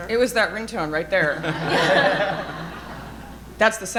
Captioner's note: audience laughing